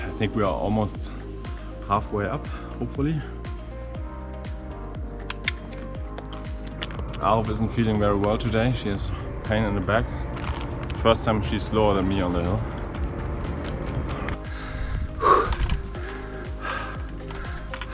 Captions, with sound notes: I think we are almost half way up, hopefully. Arev doesn’t feel very well today. She has back pain. First time she is slower than me on a gradient. *heavy panting continues*